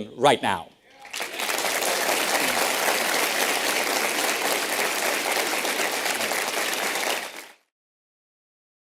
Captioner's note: audience applause